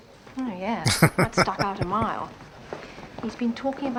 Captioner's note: laughing